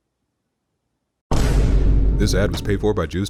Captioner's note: loud thud